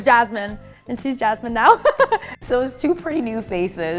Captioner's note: laughing happily